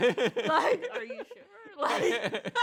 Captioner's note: both laugh